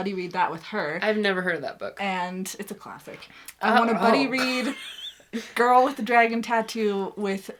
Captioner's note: laughs